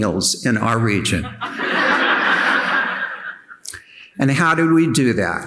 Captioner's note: audience laughing